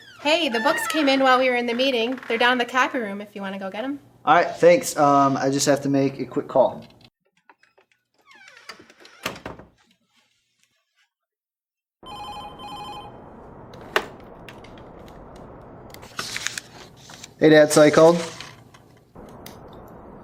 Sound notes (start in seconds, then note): 12.0 phone ringing